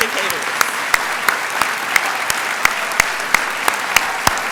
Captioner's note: applause